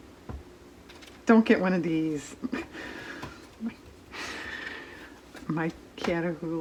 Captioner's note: laughs